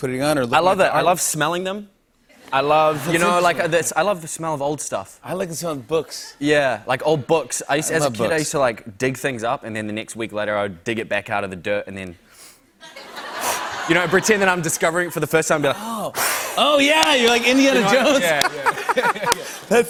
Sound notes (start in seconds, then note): 2.4 laughter; 12.3 sniffing; 16.1 blowing; 17.7 laughter